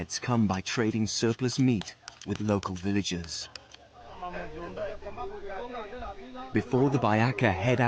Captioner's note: leaves rustling; men sing in foreign language